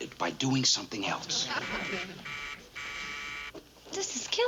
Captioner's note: buzzer rings